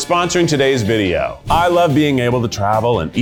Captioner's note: graphics whooshing